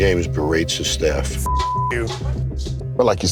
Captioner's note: beep